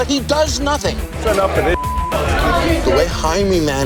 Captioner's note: beep